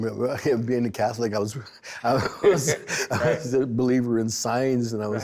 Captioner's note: both laughing